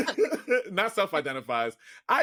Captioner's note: laughing